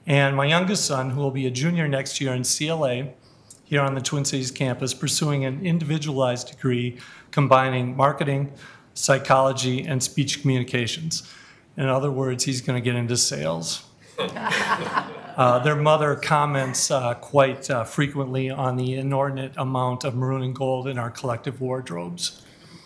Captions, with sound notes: And my youngest son who will be a junior next year in CLA here on the Twin Cities campus pursuing an individualized degree combining marketing, psychology and speech communications. In other words, he's going to get into sales. (members laughing) Their mother comments quite frequently on the inordinate amount of maroon and gold in our collective wardrobes.